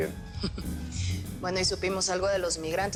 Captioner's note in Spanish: Risas